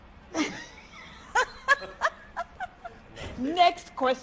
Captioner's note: laughs